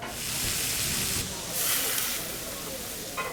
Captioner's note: sizzling